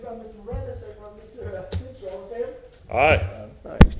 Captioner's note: off microphone